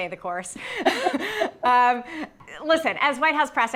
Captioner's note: both laugh